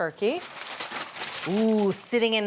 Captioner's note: foil crinkles